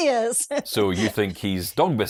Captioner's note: hysterically laughing